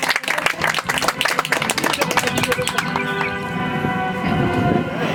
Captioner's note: audience applauds